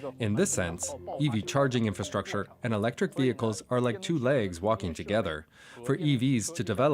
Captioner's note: speaking alternate language